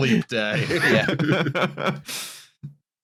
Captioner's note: laughter